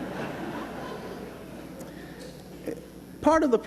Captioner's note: laughter